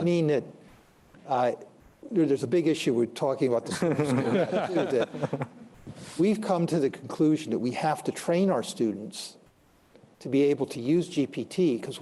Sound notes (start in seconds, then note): 3.7 laughter